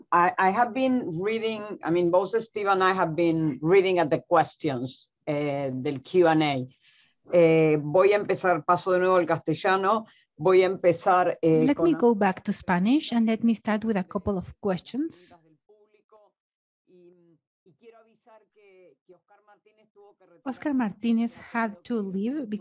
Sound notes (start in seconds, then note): 7.7 speaking in a foreign language